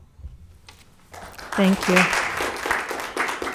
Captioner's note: audience clapping